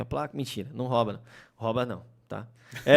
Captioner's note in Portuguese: risos